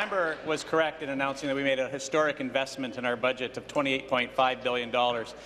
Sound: applause

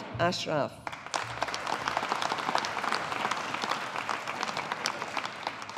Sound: audience applauding

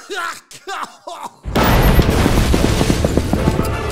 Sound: explosion through the door

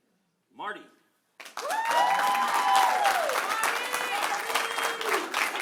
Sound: cheering; applause; cheering

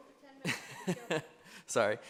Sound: drowned by laugh

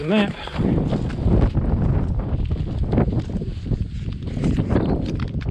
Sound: wind whooshing

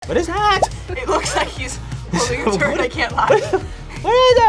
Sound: laughs

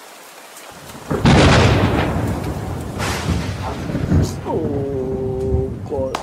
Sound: thunder rumbling; speaks in foreign language

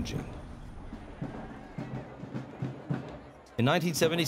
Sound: drums beating in distance, crowd talking in background

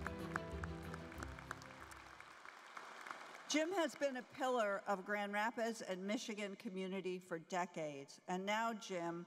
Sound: applause

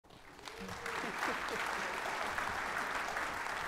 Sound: audience applauding

